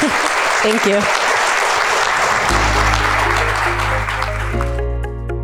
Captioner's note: audience applauding; bright music